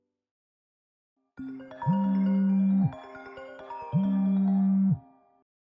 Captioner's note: Facetime ringing